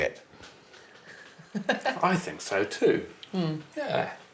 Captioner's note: chuckles